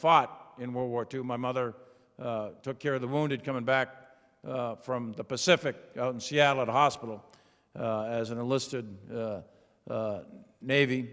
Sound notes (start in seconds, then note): none